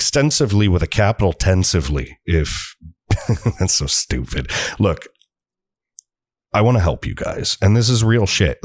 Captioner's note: chuckle